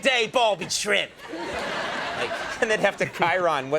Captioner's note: audience laughs